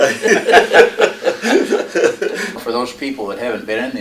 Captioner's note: laughter